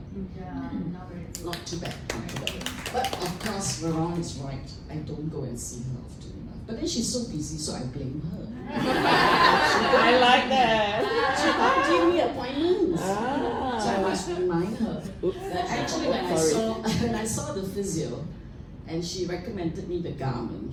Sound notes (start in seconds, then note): 1.4 applause; 8.6 laughter